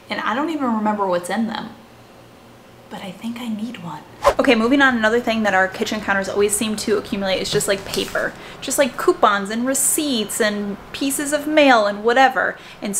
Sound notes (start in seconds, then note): 4.2 air whooshing